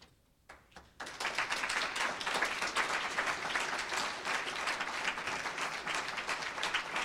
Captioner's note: applause